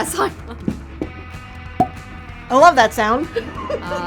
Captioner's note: bottle Pops Open